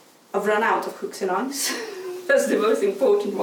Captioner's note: chuckles